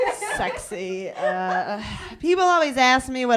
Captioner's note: laughter